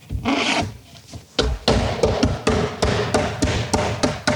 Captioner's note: banging sound